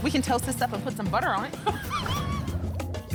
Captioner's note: laughs